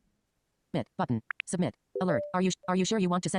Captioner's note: automated voice from screenreader